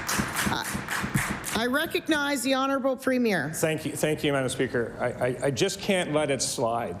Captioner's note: applause